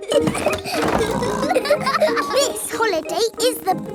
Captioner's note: laughing and snorting